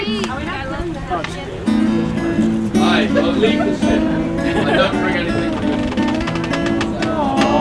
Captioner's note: guitar strumming; people chattering